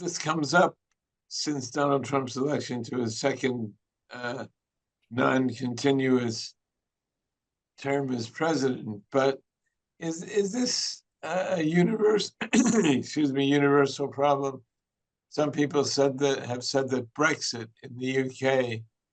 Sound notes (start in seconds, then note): 12.3 coughs